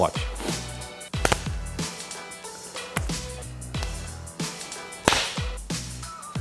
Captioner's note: hands slapping in combat